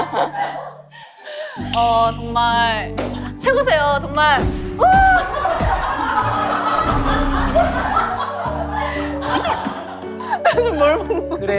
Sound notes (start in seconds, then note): 4.8 she can't stop laughing